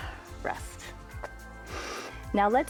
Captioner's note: inhales